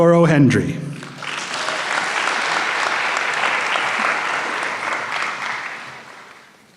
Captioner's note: applause